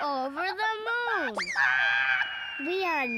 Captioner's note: squawking loudly